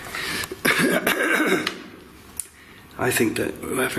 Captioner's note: clears throat